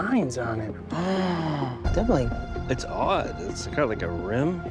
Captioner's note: gasps